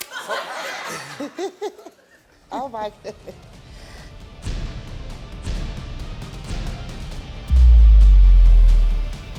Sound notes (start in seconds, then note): 0.0 all laughing; 0.0 audience laughing; 4.5 dramatic music